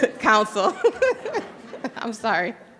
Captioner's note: laughing